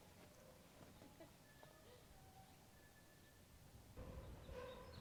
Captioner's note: Nellie chuckles